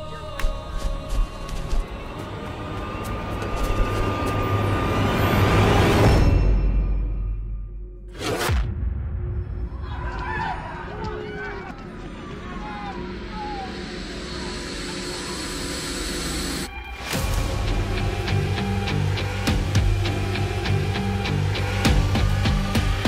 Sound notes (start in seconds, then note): 0.2 intense suspense music; 9.6 crowd screaming; 10.2 police car sirens; 15.4 police car sirens; 17.2 intense suspense music